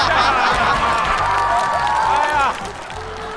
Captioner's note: haha